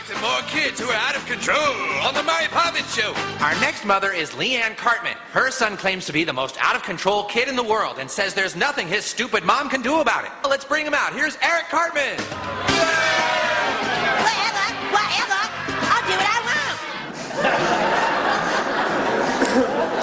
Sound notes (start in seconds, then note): 12.1 audience booing; 17.2 laughter